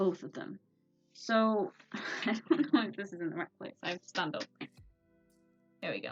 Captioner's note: laughs